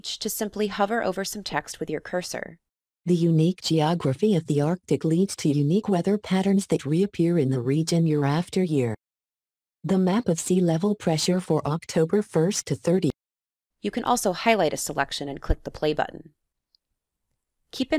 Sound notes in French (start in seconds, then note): 3.1 Voix automatisée